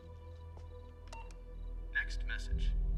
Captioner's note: phone beeps; male Electronic Voice